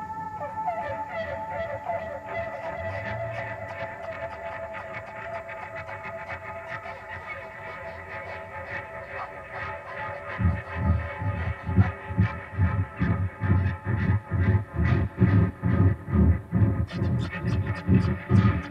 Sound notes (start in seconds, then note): 0.8 bird calling; 10.9 intense music